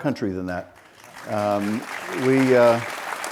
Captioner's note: audience applauds